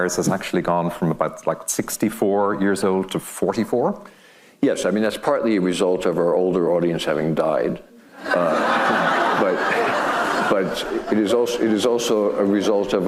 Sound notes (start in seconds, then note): 8.1 laughing; 8.1 audience laughing